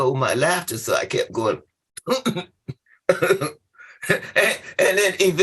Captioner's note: laughter